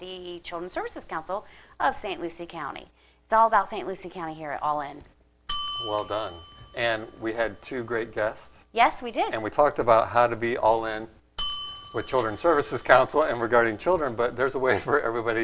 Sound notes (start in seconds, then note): 5.4 ding; 11.4 ding